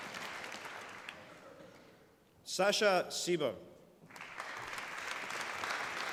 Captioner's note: applause